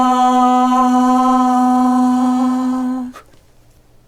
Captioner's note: resonant 'ah'